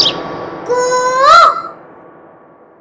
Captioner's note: Mimicking Cuckoo's voice